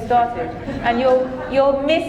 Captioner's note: audience chuckling